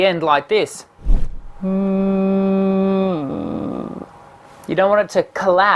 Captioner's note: hums note and then croaks